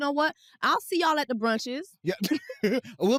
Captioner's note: laughs